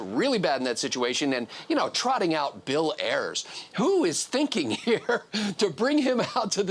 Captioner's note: laughs